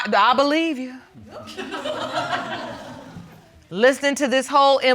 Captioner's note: audience laughing